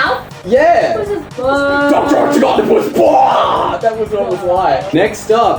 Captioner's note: imitates laser